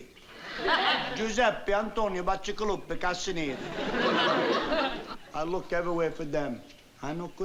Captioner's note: speaking italian